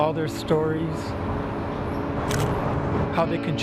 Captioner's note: camera shutter clicks